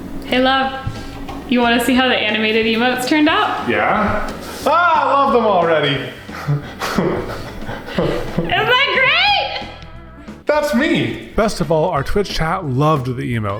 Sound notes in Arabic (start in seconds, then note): 6.3 ضحكات خافتة